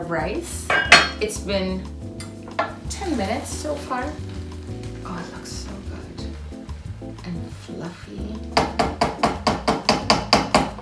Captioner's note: sizzling sound